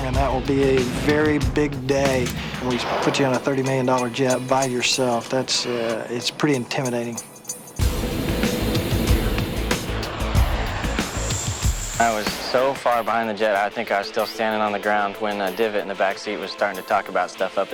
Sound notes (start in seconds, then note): 10.2 aircraft engine roaring